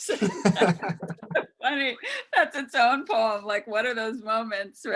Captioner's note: laughs